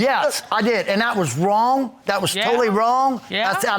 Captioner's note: none